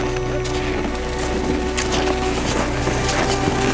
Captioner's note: snow crunching